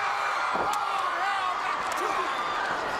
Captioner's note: crowd cheering